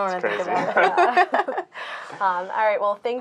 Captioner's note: laughing